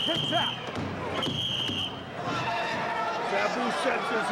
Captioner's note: whistling